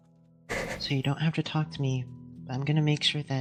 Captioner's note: ROSE sighs